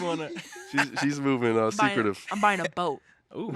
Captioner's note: hosts laughing